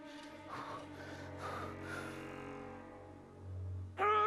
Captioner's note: exhales deeply